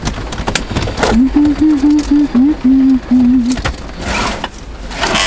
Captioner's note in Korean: 흥얼 흥얼